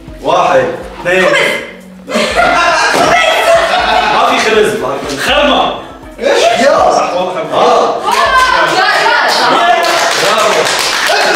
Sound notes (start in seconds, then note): 2.1 balloon pops; 10.6 clapping